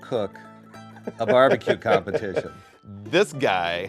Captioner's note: laughing